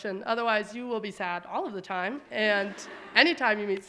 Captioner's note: audience laughing